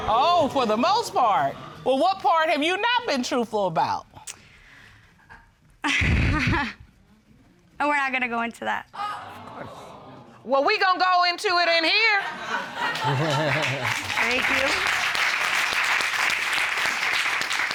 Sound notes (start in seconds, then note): 5.9 chuckles; 9.0 audience exclaims; 12.3 audience laughs; 12.5 chuckles; 16.1 audience applauds